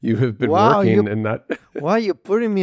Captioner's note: laughs